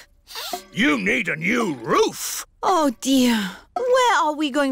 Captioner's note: sniffs